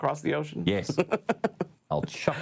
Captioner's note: laughs